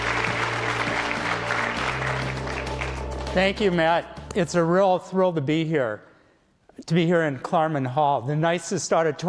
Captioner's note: applause